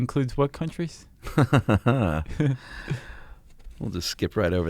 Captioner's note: laughs